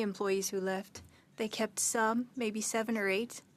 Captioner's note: speaking French